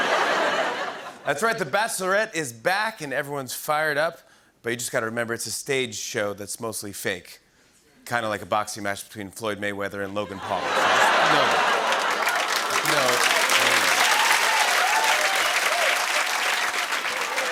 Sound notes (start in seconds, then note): 10.3 laughter; 10.9 cheers and applause